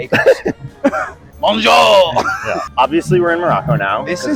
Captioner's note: laughing